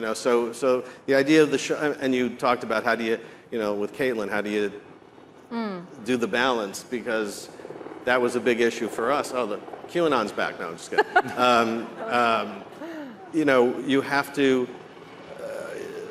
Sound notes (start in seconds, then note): 10.9 all chuckling